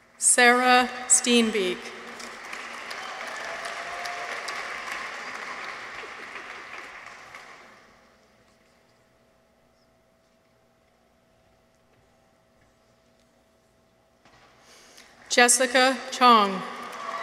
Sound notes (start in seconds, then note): 2.1 audience applauds